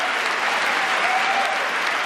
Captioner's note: applause